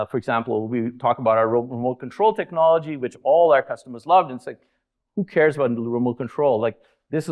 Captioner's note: none